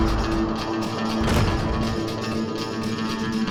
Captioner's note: crash; thud